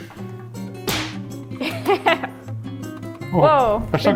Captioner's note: glove snapping; laughing